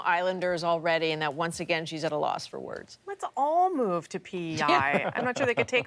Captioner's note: laughter